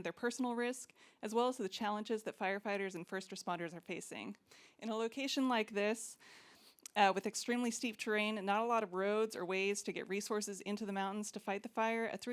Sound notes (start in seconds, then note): none